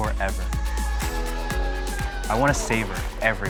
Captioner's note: cheering